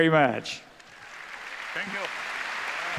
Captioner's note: applause